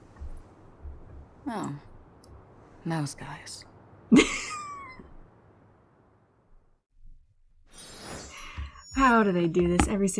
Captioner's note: laughs